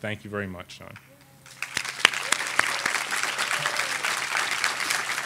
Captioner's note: audience applauding